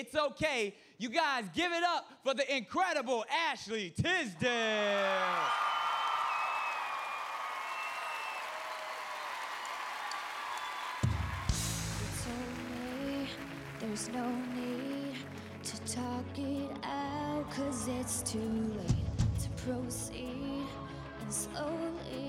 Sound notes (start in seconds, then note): 9.1 cheers and applause